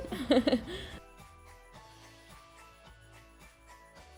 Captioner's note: laughs